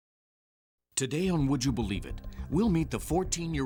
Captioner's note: voiceover